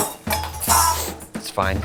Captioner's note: metallic cups falls